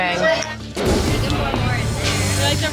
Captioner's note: chatter